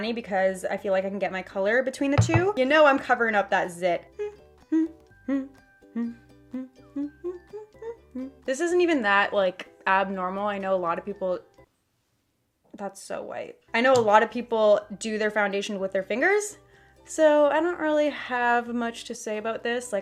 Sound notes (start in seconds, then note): 4.2 hums in time with the application of the foundation